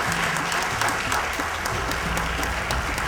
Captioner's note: applause